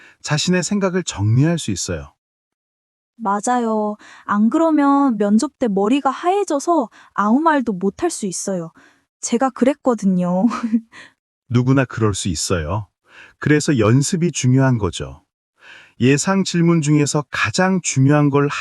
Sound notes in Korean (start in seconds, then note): 10.5 부끄러운 듯 웃음